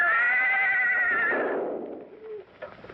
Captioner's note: gunshot!